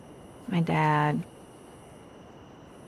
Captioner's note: none